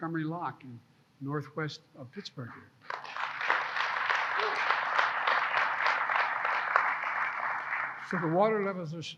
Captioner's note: applause